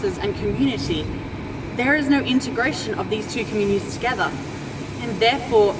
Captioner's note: steam hissing in background